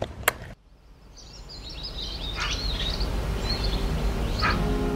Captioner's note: birds chirping